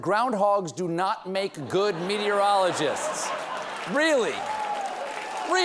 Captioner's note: laughter